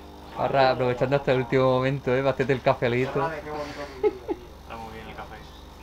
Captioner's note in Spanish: risas